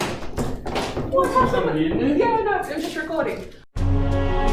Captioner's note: babble & gossip